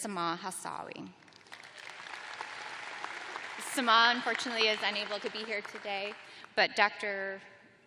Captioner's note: applause